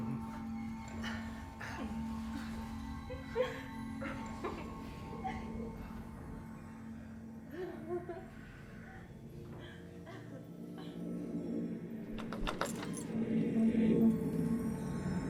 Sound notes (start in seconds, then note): 4.1 woman laughing; 11.8 ominous music